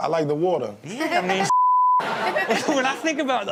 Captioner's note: beep